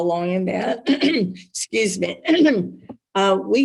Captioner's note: clears throat